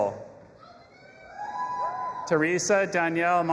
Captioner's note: audience applauding and cheering